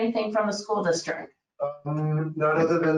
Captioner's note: speaking faintly